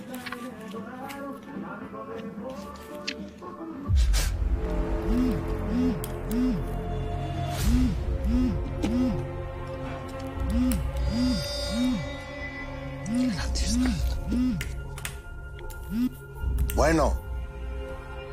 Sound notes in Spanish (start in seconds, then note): 4.9 Vibra el celular